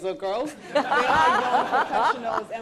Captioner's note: laughter